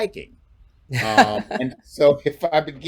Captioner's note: chuckles